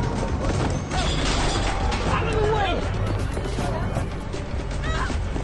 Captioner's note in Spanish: Estruendo